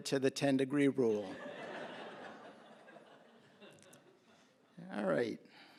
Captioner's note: laughter